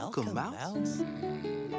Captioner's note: yawning